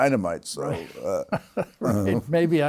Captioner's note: chuckles